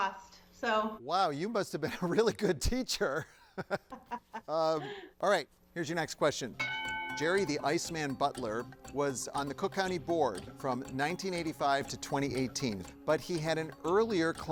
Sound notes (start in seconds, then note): 1.8 chuckles; 3.2 laughing; 6.6 bell dings